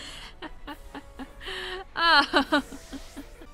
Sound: laughing

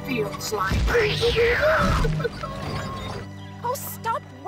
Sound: whimpering

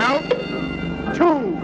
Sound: ding

